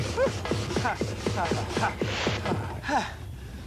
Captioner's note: panting